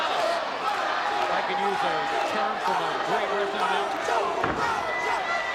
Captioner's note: audience continues chanting